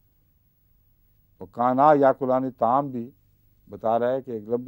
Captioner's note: Arabic